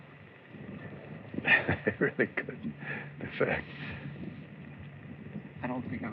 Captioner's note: laughing